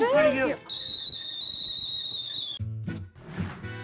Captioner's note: kettle whistling; upbeat music